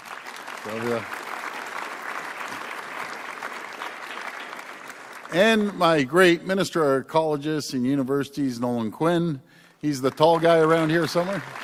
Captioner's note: applause